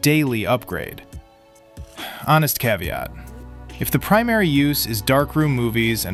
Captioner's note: sighs